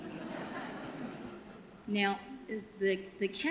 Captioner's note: audience laughter